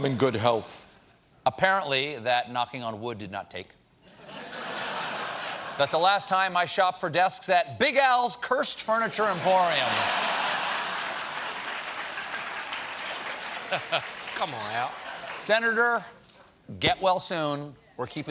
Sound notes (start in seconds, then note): 4.1 laughter; 9.1 laughter; 9.3 applause